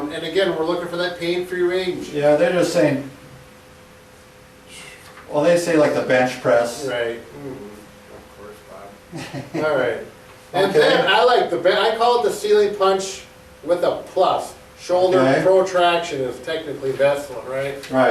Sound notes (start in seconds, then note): 9.1 chuckles